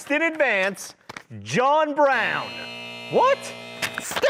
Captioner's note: buzzer buzzing